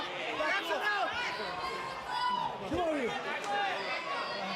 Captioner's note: crowd chatter